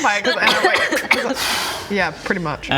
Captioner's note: pwrrrrrr